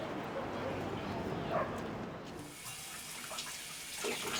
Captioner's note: dogs barking; water running